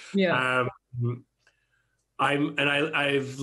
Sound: chuckles

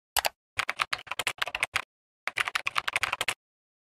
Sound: keyboard clacking

